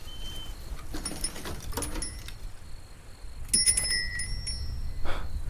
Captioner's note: bell jingles; scoffs